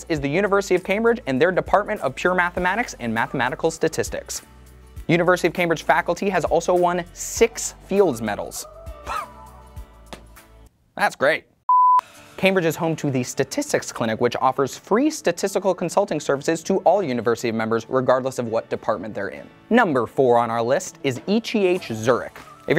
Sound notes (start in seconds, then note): 11.7 beep